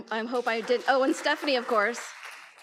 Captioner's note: audience applauds